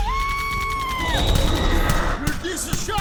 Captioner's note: angry roar